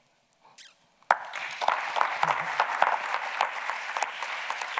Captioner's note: audience clapping